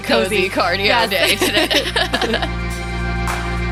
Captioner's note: laughing